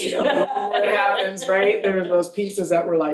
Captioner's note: laughing